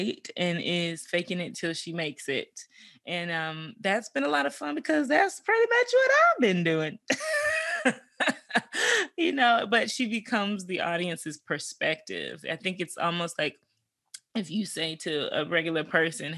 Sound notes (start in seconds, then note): 7.1 chuckles